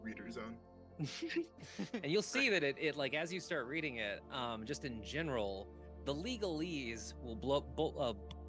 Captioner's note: laughing